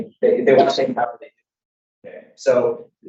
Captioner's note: speaking faintly